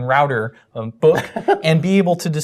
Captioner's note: laugh